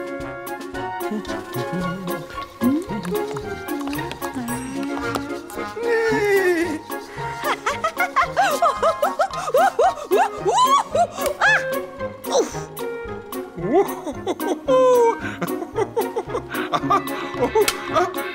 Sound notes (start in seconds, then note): 6.3 laughs; 6.3 neighs; 10.2 shrieks; 13.5 laughs